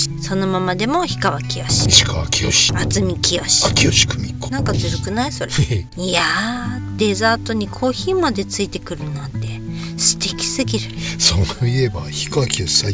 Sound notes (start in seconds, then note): 5.7 laughs